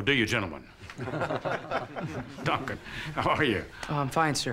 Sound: laughing

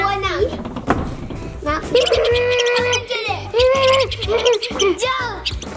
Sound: squeaky mouse noise

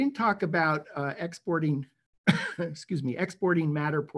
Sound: coughing

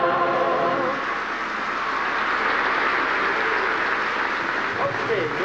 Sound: applause

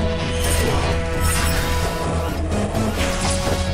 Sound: ax whooshing

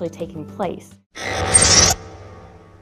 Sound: mechanical sfx

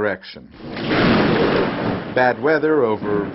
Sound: thunderstorm striking

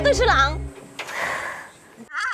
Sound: sighing

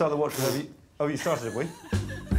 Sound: blows raspberry

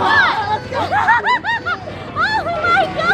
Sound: laughing

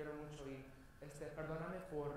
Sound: foreign language spoken

